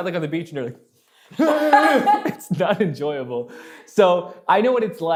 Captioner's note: moan